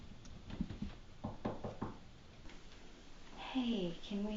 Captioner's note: knocking